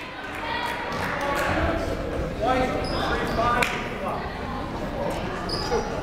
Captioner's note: people shouting in the crowd; people talking in the crowd